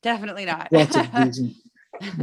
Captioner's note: laugh